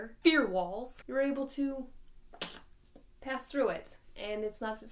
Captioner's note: smacks